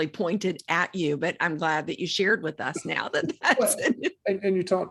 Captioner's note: laughing